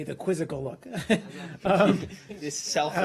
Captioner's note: laughter